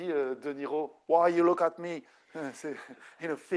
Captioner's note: speaking French